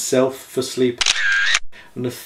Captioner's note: photo shutter snapping